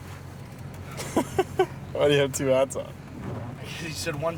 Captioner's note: laughter